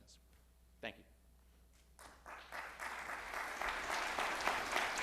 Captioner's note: audience applauds